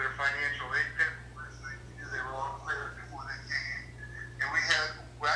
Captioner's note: cell phone scrambles words